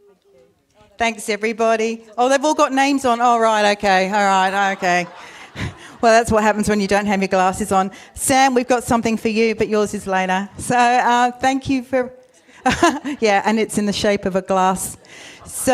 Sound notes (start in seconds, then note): 12.6 laughs